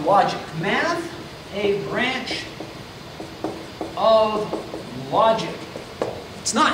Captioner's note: marker clacks